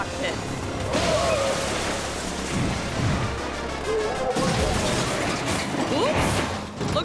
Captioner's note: energetic music; airplane thuds